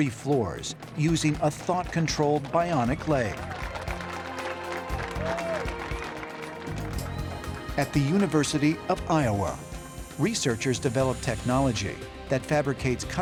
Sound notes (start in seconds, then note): 2.9 cheers and applause